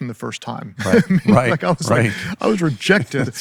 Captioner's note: laughing